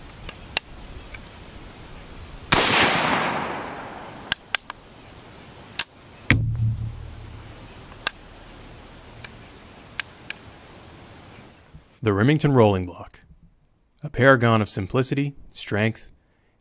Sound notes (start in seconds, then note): 2.5 gun bangs; 4.5 gun cocking